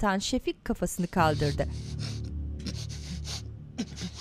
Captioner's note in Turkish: Nefes sesi